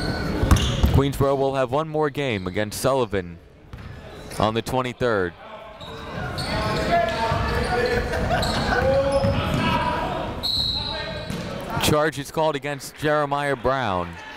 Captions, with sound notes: Queensborough will have one more game against Sullivan, on the 23rd. (chatter) (whistle) Charge is called against Jeremiah Brown.